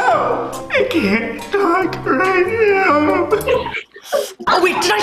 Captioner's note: sobbing